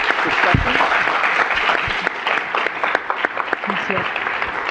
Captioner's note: all clapping